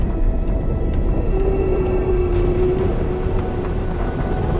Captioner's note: ominous music; creature howling; ominous music rising